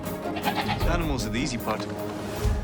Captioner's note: sheep baas